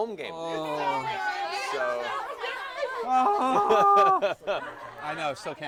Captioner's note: cheering